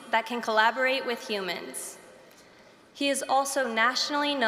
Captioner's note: none